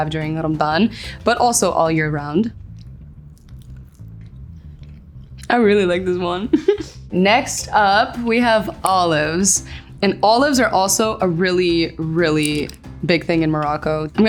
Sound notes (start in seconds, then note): 3.2 faint crunching; 6.4 giggles